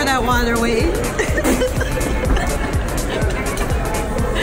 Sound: laughing

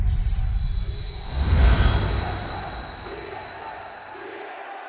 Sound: crowd

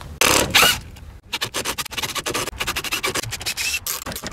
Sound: mechanical noise

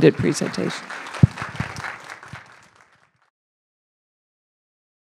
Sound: applause

